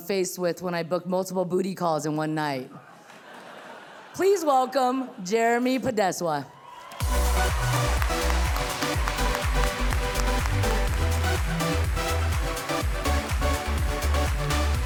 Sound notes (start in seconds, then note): 6.5 audience cheering; 7.0 cheerful music